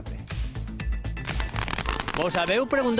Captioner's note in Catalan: So de petards